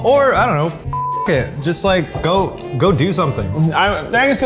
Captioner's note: beep